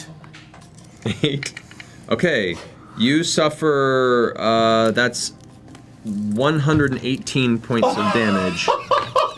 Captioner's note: laughs; incredulous laughter